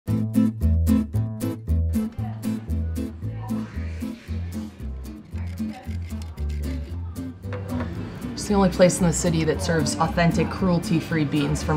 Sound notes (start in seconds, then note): 0.0 playful guitar music; 5.3 grater scratching